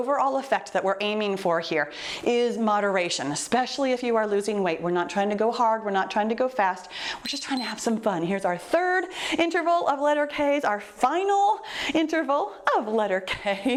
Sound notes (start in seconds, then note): 7.2 timer beeps